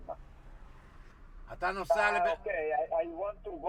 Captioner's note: voiceover